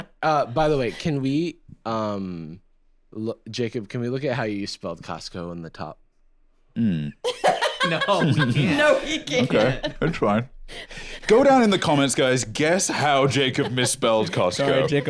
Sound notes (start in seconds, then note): 7.4 laughing